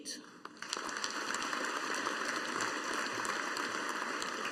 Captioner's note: audience applauding